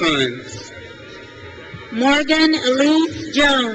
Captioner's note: crowd cheers